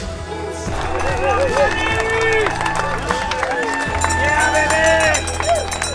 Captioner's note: cheering and clapping